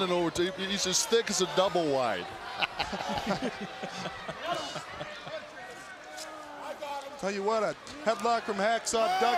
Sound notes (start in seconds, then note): 3.2 crowd chatter